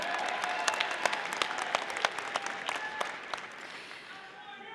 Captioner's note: audience applauding